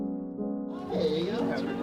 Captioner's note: chatter